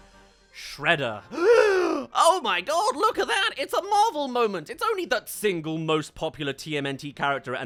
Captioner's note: gasp